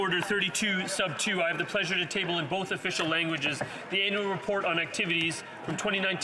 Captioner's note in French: voix de l'interprète